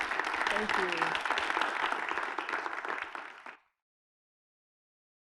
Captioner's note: applause